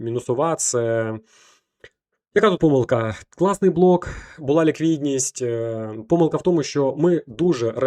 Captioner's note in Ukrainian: сопіння